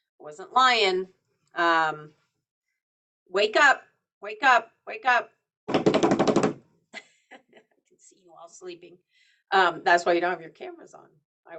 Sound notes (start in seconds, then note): 6.0 instructor taps on table; 7.0 instructor chuckles